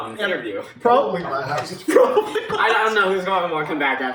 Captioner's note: laughing